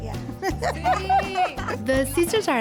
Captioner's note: laughter